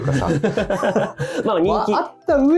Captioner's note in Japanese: 笑い